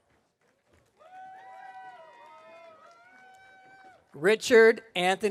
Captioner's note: audience cheering